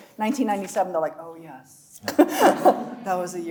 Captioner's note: chuckling